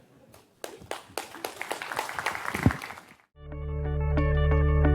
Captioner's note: audience applauses; gentle music